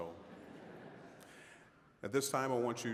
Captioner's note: audience chuckling